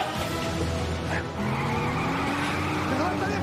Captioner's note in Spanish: Chirrido de llantas